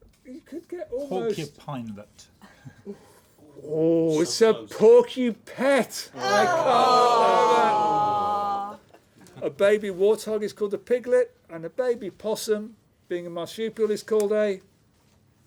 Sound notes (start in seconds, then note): 6.2 groans